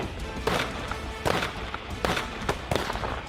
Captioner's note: gunshots